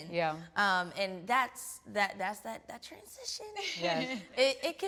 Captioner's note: laughs